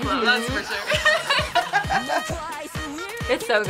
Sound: both laugh

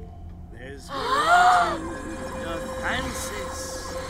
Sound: gasps

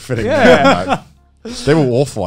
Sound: laughing

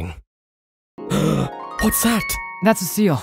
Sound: gasp

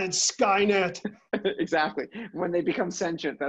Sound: laugh

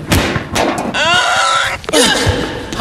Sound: screaming

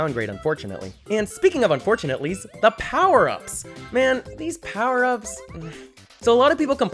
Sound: sigh

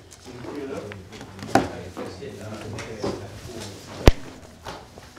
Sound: men chattering

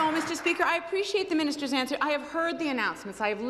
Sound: some Applause

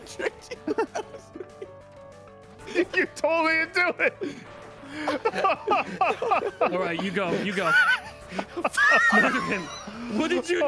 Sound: laughs; laughs

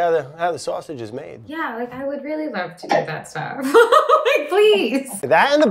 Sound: laughs

